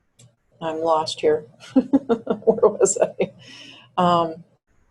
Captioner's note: chuckles